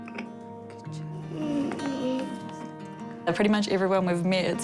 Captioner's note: whines softly